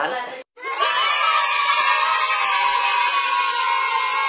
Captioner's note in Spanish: Vítores